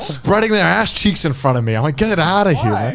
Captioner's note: imitates peeling